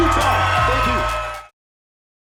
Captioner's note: audience cheering